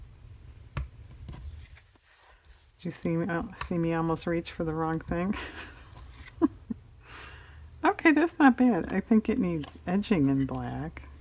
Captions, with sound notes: did you see me almost reach for the wrong thing? (laughs) okay, that's not bad I think it needs edging in black